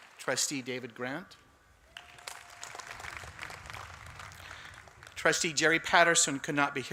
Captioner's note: applause